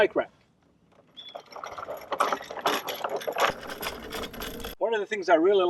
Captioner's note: wheels scraping